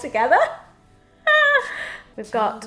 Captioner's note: laughs